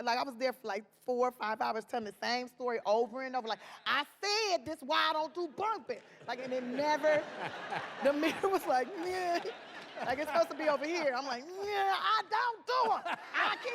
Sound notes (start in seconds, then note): 10.2 laughing